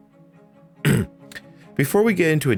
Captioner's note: ahem